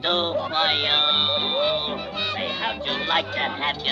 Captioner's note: mother and children cheering